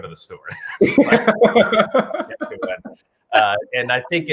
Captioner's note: laughs